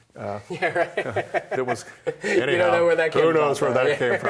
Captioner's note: laughing; laughs